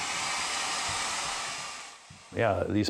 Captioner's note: hairdryer whirs